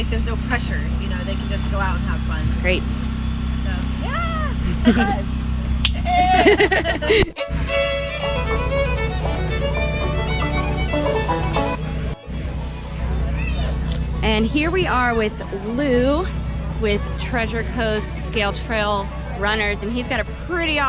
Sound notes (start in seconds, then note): 4.2 laughing